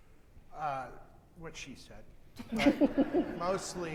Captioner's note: audience chuckles